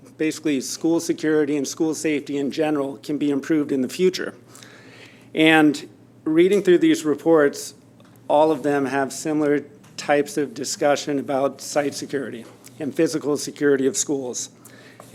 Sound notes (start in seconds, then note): none